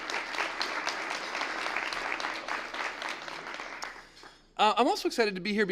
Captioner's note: applause